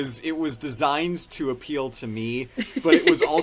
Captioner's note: laughs